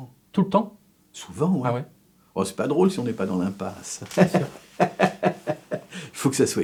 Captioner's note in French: rires